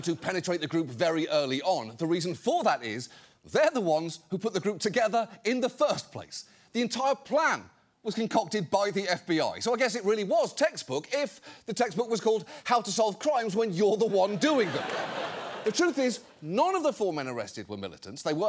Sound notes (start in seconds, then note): 14.0 audience laughs